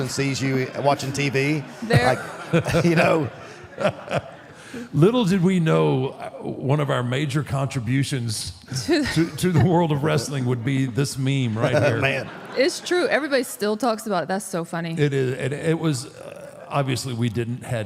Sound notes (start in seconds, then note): 1.8 Mark laughs; 11.5 laughs